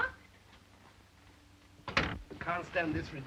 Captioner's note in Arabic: يغلق الباب